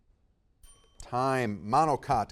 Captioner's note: timer dings